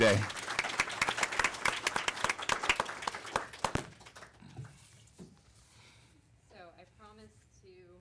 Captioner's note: applause